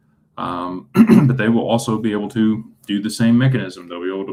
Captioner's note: clears throat